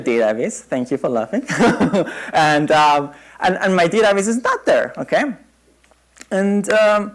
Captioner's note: laughter